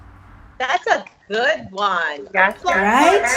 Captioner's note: applauds